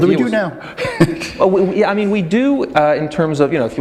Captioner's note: chuckle